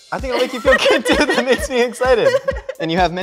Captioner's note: both laugh